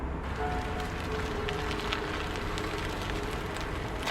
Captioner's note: gravel crunching